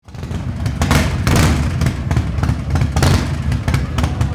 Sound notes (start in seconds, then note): 0.0 engines rev